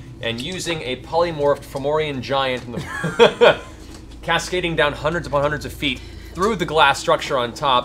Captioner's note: laughs